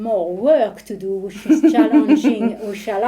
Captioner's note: chuckling